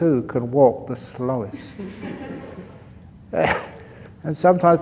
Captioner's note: laughter